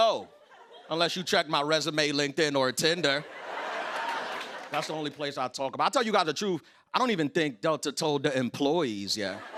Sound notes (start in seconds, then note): 3.0 laughter